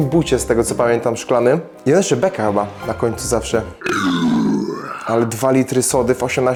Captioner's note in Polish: pomruk